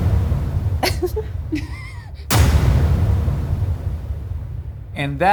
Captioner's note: dramatic music; giggling